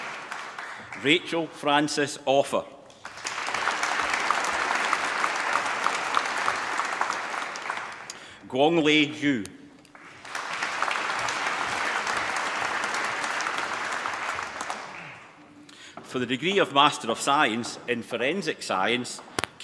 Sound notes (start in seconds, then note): 2.9 applause; 9.9 applause